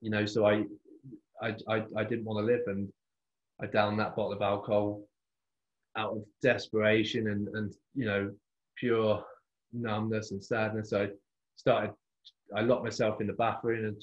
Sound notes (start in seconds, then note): none